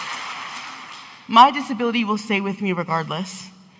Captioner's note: audience applauding